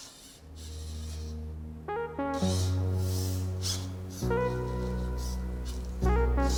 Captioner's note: gentle music; robots whirring